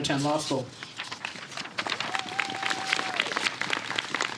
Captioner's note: applause